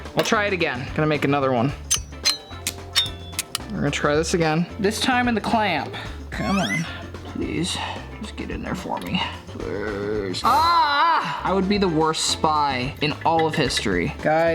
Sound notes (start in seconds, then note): 1.9 scissors snipping